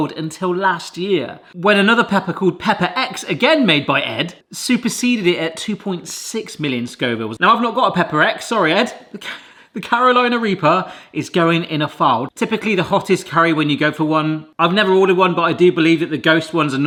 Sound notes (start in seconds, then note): 9.0 coughing